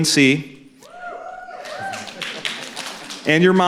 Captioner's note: cheering